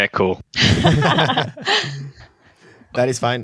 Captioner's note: laughter